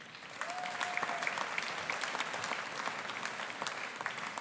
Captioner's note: audience applauding